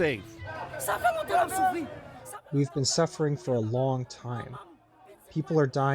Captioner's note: through translator